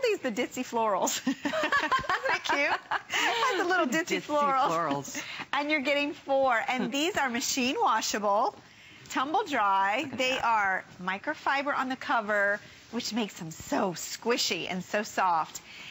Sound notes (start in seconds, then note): 1.2 laughter